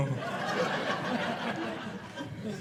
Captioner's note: audience laughing